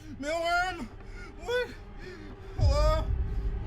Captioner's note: cries